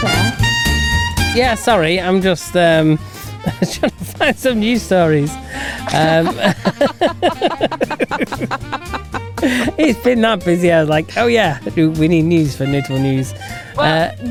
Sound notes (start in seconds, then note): 5.4 laughing